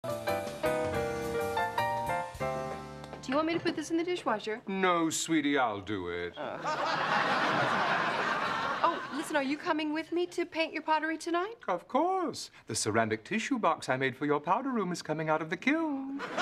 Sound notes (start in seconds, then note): 6.4 laughter; 16.1 laughter